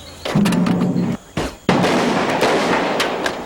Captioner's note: gun fires